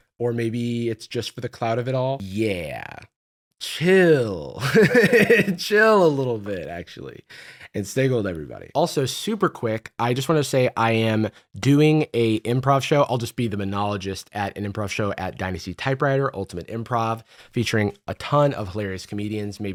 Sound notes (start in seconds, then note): 4.6 laughs